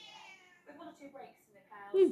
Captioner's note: meow